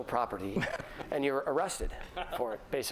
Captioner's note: laughter